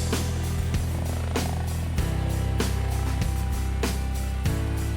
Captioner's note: helicopter sound